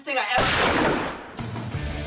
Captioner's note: gun shot